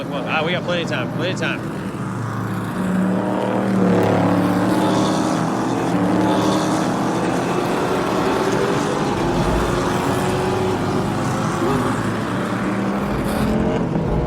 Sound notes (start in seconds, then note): 1.8 engines rumbling; 7.0 rumbling continues